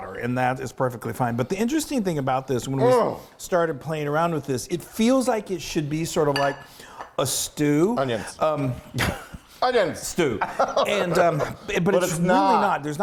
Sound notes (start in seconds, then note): 10.4 laughing; 10.4 laughs